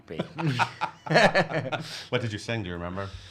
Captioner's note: laughing